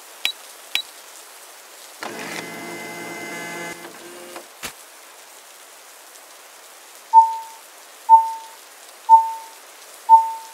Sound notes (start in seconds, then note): 0.2 click click; 7.2 beep beep beep beep